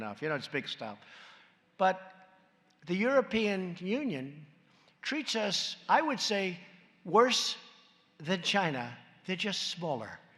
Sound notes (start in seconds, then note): none